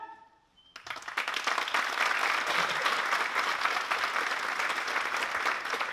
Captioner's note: applause